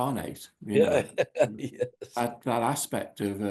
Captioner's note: John laughing?